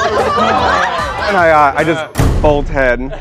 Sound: laughter

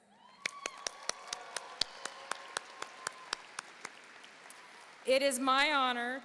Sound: audience cheering and applauding

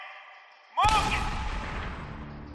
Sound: gun shot

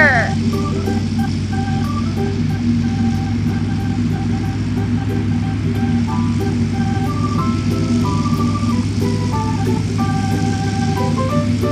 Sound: engine sounds

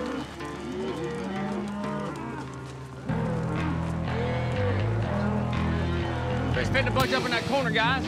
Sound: cows moo

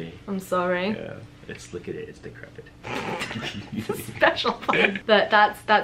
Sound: laughs

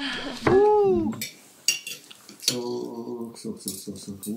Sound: speaking foreign language

